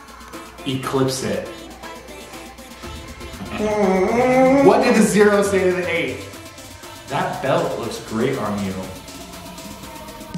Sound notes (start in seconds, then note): 3.6 exclaims warningly